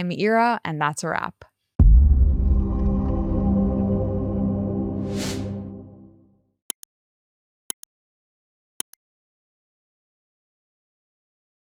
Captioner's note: whooshing